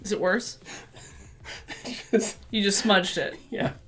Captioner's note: laughter